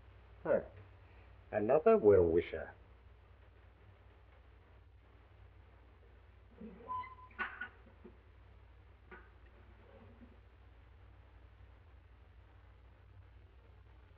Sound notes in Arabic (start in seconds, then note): 0.3 يسخر; 6.6 صرير الدرج